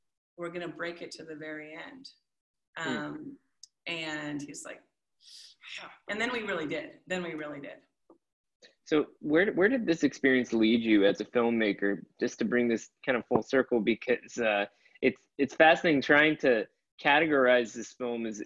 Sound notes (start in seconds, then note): 5.2 growls